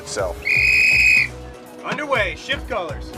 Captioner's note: whistle blows